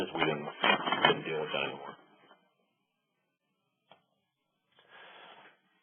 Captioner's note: microphone noise drowns out